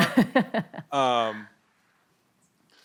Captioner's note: laughter